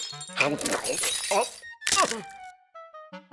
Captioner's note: teeth crumbling